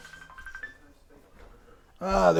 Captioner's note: phone rings